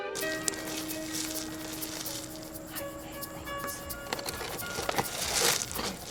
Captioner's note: pebbles clank; both whispering; suspenseful orchestral music